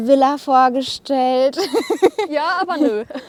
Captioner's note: lacht